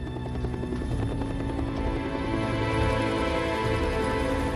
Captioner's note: helicopter rumbles